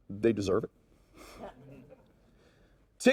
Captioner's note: audience chuckles